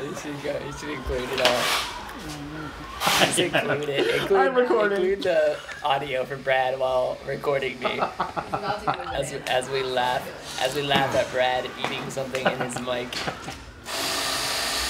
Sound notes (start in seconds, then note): 7.8 laughter